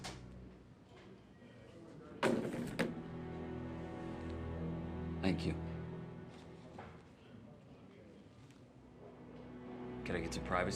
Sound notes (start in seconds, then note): 2.1 phone clatters